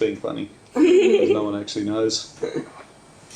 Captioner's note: laughing